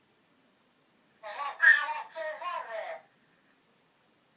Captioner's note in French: voix aiguë